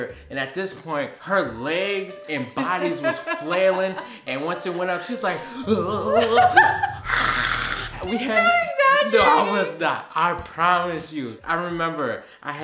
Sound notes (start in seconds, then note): 5.4 laughing; 5.6 groans; 7.0 yelling